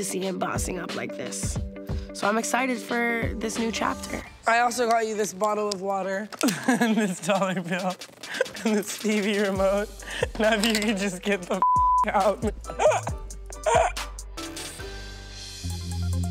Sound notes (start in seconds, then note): 11.6 beep; 12.1 laughing